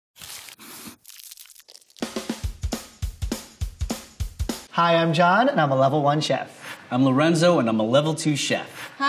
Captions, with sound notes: [food crunching] [lively music] - Hi, I'm John and I'm a level one chef. - I'm Lorenzo and I'm a level two chef.